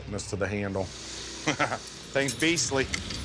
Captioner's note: laughs